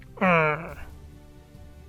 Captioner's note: groans